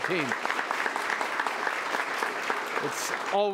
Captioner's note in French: Applaudissements